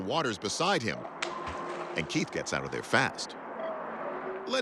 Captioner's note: water splashes